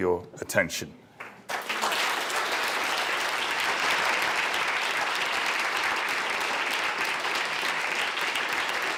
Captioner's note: applause